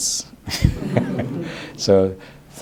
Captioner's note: everybody laughing